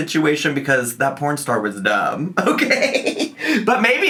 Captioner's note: chortles